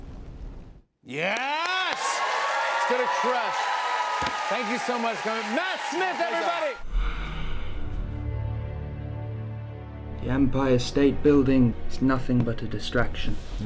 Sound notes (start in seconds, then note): 1.1 cheers and applause; 6.8 dramatic music plays